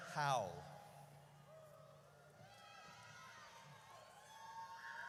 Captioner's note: audience cheers